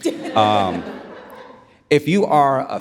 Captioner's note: audience laughs